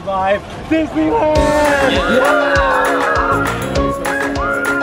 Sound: happy hollering

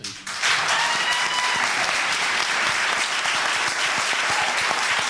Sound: cheers and applause

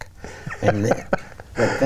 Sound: laughs

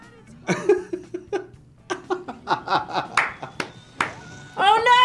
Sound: laughs

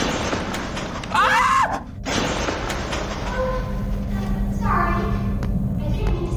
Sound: screams

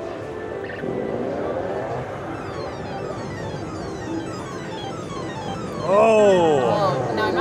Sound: machine bleeps; machine zips

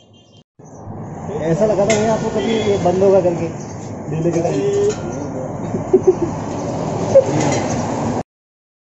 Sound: laughs

